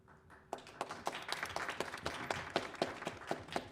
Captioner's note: applause